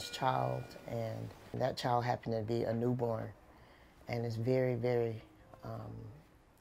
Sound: machine beeping

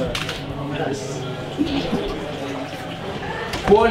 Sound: pissing

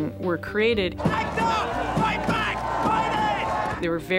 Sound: chanting

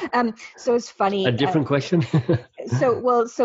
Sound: laughing

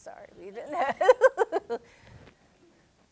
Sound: laughter

